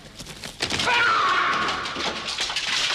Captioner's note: he yells